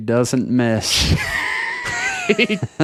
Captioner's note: laughing